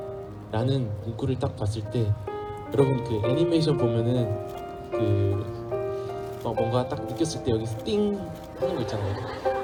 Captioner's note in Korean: 웃음